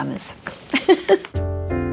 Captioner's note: Priscilla laughs; relaxing jazz music